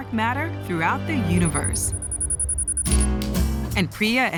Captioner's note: beeping